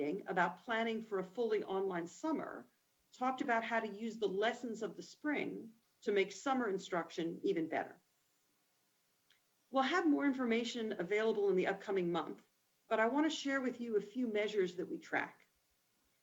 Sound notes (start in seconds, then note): none